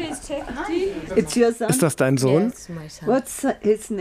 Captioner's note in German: englisch